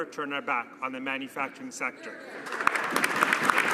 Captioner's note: some Applause